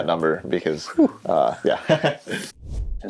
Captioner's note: laughing